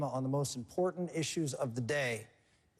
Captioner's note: none